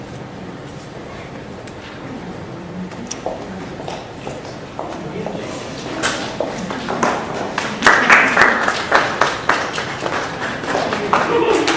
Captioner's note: applause